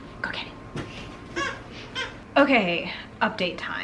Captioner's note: toy squeaking